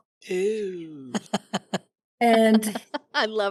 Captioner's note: laughing